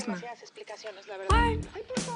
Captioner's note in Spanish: Voz en la TV